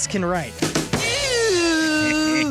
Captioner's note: buzzing